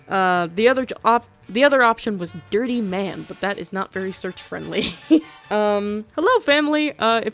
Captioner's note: laughs